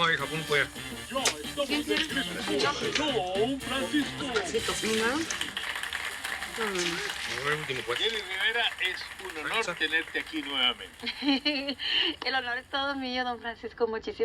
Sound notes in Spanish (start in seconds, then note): 4.6 Aplausos; 11.0 Risas